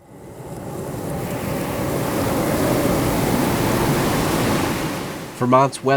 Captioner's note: rain pouring and wind howling